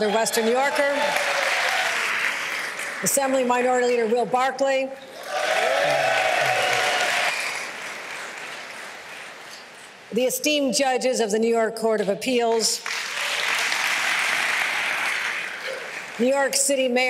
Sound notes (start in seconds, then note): 10.3 cheers and applause